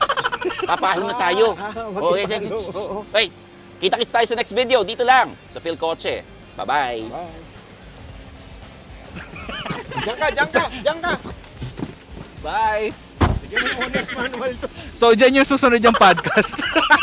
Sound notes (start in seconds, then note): 9.1 laughing